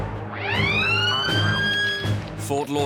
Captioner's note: alarm wailing